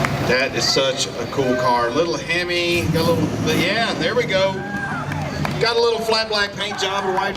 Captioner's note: engine rev